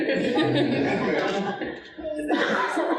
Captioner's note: audience laughing